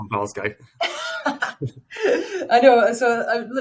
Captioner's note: laughing